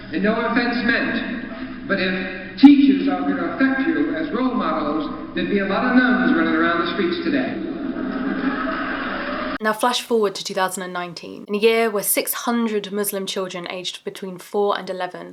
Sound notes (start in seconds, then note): 8.2 crowd laughing